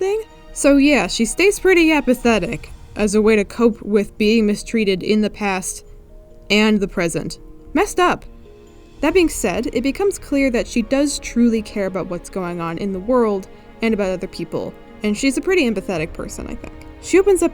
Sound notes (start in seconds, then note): none